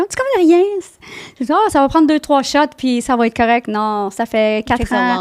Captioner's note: in french